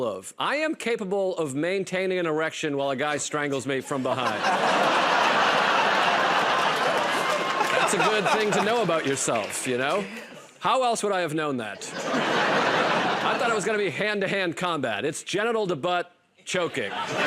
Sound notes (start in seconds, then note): 3.9 laughter and applause; 11.8 laughter